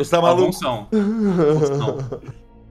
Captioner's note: laughs